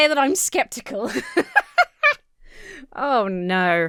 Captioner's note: laughs